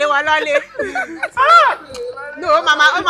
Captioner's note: everyone laughs